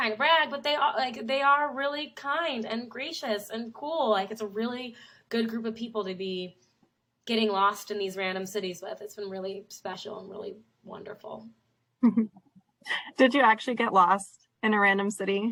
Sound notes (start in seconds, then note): 12.0 laughs